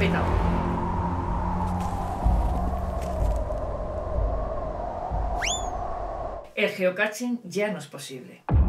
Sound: dramatic Music; wind

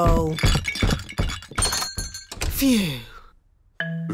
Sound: thumping

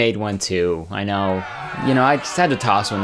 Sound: crowd Booing Crowd Effect

